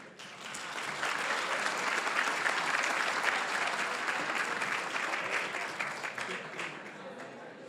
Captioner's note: applause